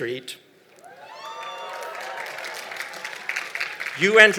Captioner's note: applause